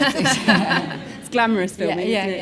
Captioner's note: all laugh